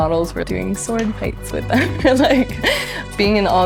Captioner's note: laughs